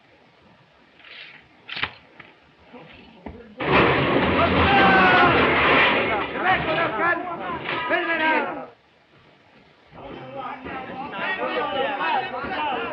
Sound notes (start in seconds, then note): 4.8 all shouting; 9.8 all chattering